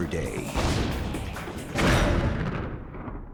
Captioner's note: explosion